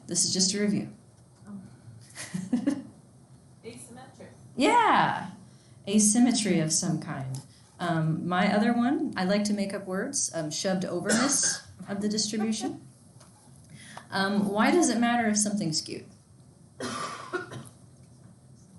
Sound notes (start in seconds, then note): 1.8 instructor laughs